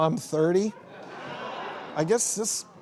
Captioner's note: laughing